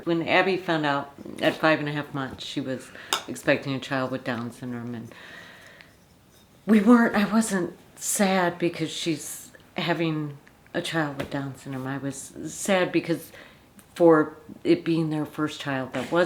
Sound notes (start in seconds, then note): none